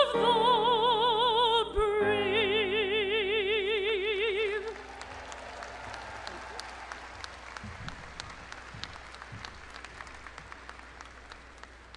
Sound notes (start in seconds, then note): 4.4 crowd applauding